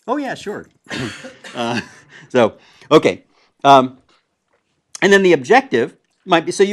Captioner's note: laugh